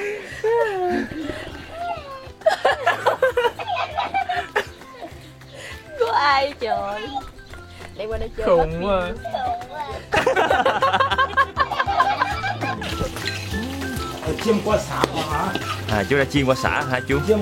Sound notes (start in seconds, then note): 0.2 laughter; 8.2 voice imitation; 10.0 laughter